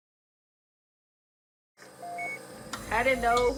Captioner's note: machine beeping